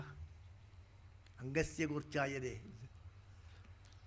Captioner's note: speaking in Sanskrit